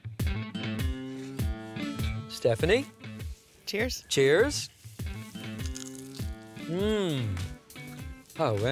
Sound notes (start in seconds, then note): 6.0 crunching